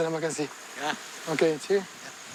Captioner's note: speaking in foreign language